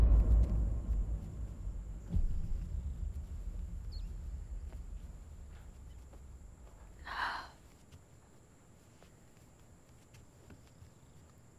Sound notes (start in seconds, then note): 6.9 Sighs